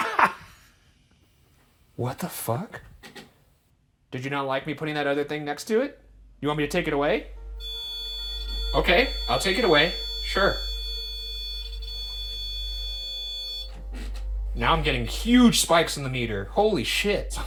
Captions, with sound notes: (laughs) What the fuck? Did you not like me putting that other thing next to it? Do you want me to take it away? (continuous beeping) Okay, I'll take it away. Sure. (continuous beeping) Now I'm getting huge spikes in the meter. Holy shit.